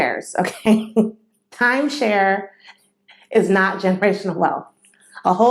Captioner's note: laughter